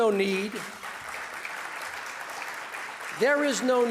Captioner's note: audience applause